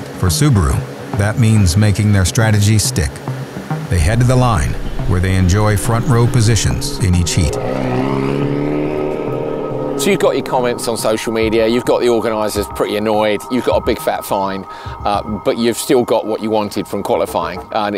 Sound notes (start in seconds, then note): 9.0 car engine roars